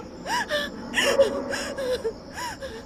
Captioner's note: ARABELLA crying